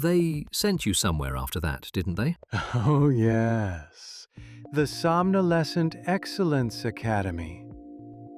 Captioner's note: laughs